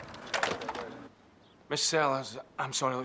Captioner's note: phone clacks